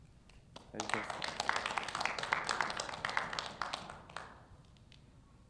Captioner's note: audience applauds